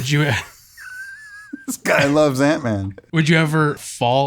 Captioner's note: all chuckling